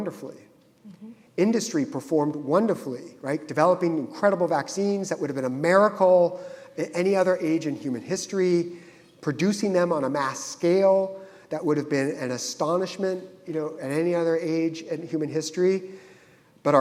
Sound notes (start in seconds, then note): none